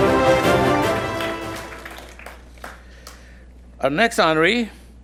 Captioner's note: attendees applauding